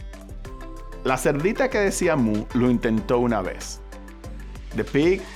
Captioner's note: speaking Spanish